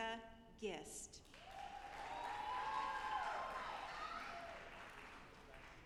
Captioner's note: audience applauding